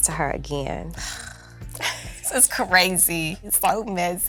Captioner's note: sighs